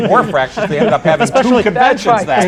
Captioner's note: laughter